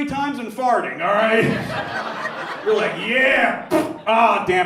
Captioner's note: blows raspberry